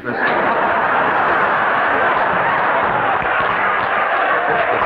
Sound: audience laughing

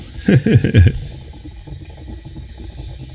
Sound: laughing

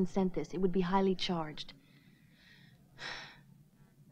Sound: sighs

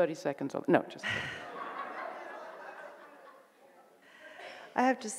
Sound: audience laughing

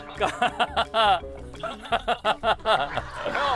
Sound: laughing awkwardly

